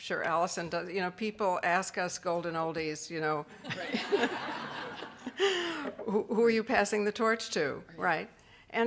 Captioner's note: laughing